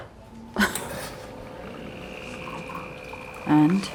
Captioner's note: laughing; coffee machine whirring